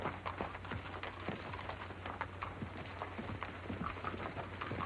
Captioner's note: horses clomping